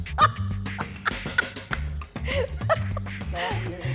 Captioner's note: laughs